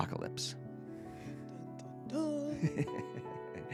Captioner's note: laughs